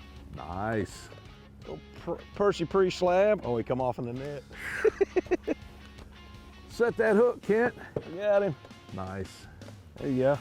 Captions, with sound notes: Nice. - Percy Priest slab, oh he come off in the net. (laughter) - Set that hook Kent. - Got him. - Nice.